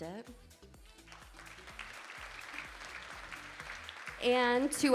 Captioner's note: audience applauding